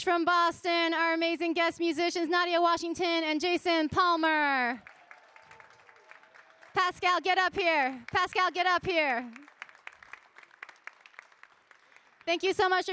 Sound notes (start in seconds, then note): 4.8 audience cheering; 9.2 audience applauding